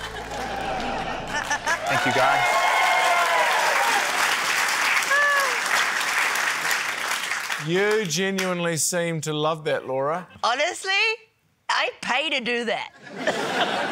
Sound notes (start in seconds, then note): 1.2 laughter; 3.9 cheering, applause; 12.9 laughter